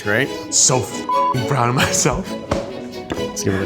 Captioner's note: beeps